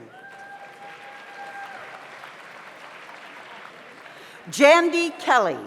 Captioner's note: audience cheers; audience applauds